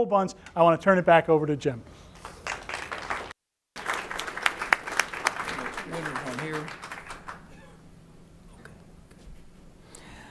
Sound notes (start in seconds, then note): 1.8 applause